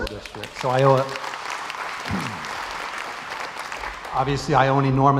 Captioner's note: crowd applauds